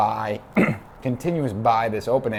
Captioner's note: clears throat